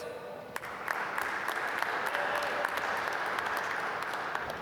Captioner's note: applause